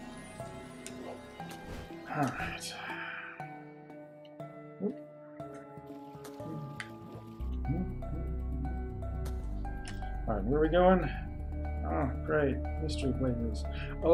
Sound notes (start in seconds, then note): 2.0 sighs; 7.6 humming along